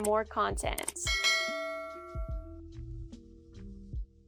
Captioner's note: bell rings